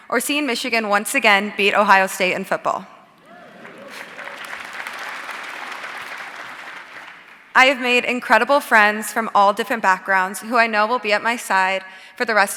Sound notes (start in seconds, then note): 3.2 audience cheering and applauding